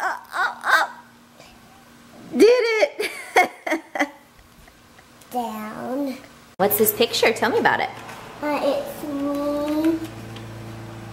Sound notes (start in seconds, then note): 4.0 laughs